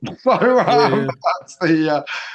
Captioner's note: laughing